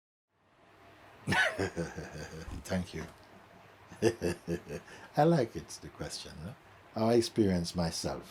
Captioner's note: laughs